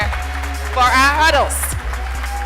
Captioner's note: applause